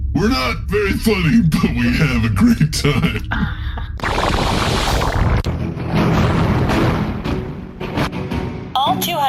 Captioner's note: laughs